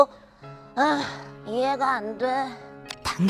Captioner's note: sigh